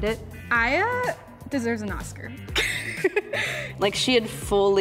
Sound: laughing

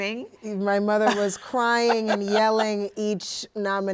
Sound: laughing

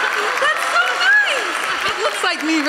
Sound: audience applauding

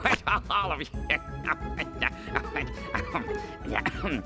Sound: laughing

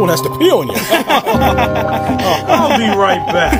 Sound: laughing

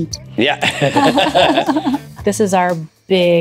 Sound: group laughs

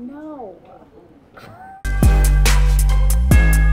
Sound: snickering; upbeat hiphop music

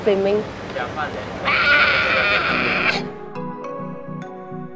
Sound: pterosaur screech???

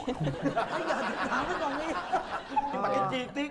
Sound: laughing

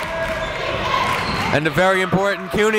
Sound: crowd chanting defense

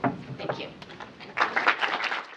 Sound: applause

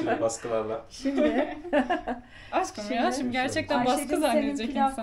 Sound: laugh

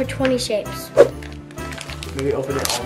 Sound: air whooshing

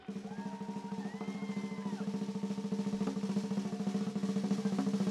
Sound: crowd cheering

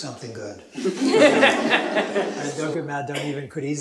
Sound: chuckling

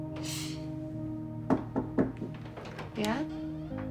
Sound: door knocking

